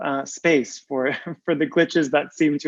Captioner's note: soft laugh